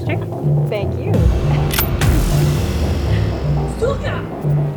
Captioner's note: gun clicks; Milana speaks Russian